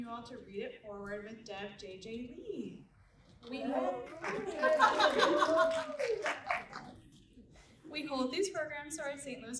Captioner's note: applause